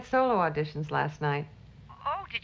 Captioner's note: on phone